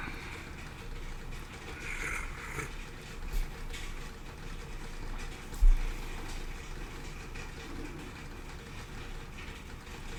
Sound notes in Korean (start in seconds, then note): 1.7 콧방귀